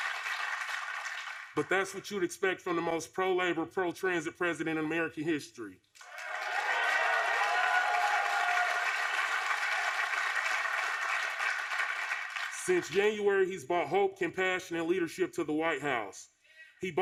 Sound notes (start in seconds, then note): 0.0 applause; 6.0 applause